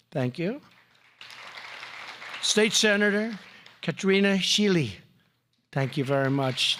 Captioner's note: applause